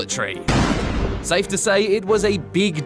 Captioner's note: gunshot